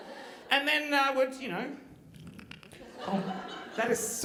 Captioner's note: flesh squelching